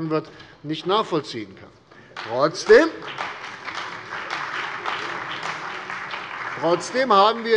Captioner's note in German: Beifall bei der CDU und dem BÜNDNIS 90/DIE GRÜNEN